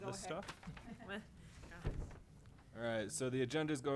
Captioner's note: board members chuckling